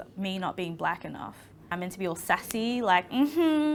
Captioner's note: snapping